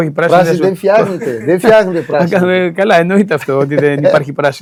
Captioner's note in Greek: γέλια